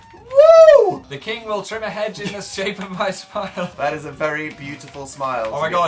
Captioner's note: both laughing